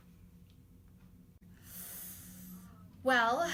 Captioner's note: inhales sharply